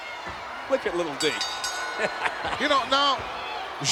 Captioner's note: laugh